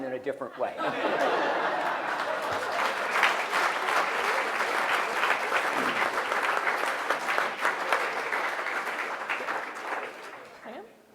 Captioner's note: applause